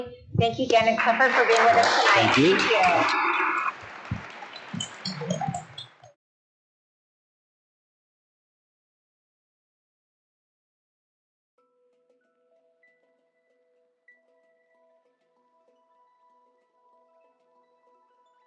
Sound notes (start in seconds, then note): 0.7 crowd applauding; 11.2 gentle upbeat music